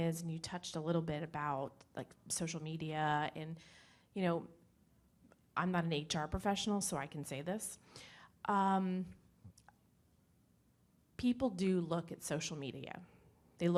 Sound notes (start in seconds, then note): none